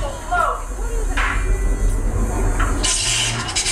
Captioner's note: clang